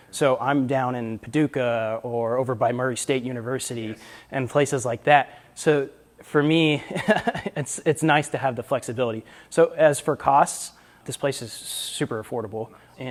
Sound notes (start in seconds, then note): 6.9 laughs